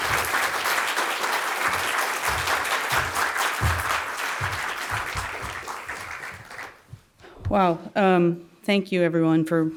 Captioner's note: applause